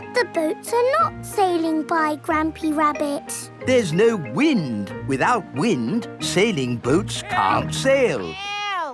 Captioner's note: none